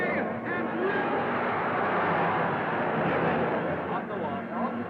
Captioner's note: crowd cheering